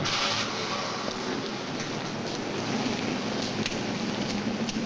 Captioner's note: door slams shut; motor revs